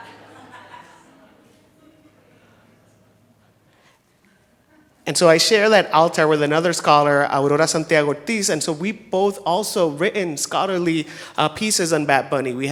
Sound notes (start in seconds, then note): 0.0 people laughing